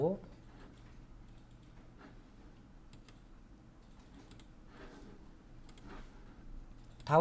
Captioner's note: silence